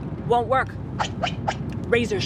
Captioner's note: sword slashing